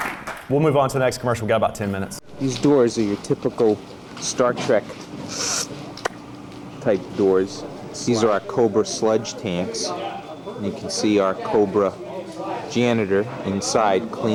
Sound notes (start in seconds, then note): 0.0 applause; 5.6 fwooosh